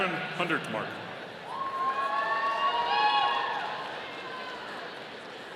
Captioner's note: audience cheering